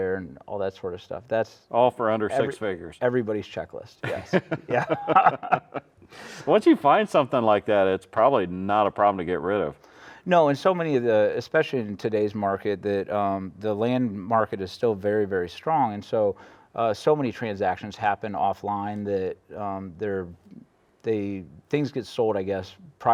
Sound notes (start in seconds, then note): 4.0 laughing